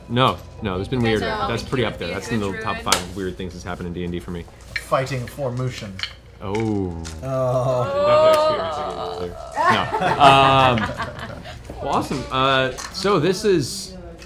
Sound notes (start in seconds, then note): 6.4 groaning